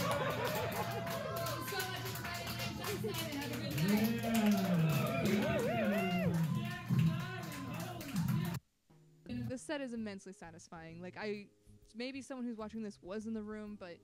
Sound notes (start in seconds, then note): 0.3 laughter, clapping; 4.3 cheering, laughter, "Give it up for -- holy shit!"